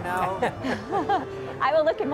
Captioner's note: laughs